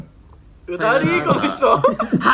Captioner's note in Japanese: 心臓の音